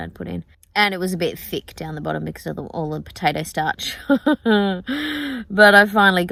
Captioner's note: laughs